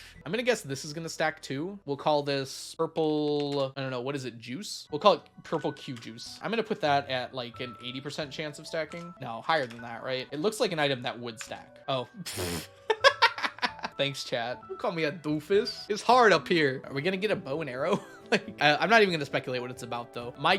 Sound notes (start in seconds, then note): 12.9 laughs loudly; 18.3 laughs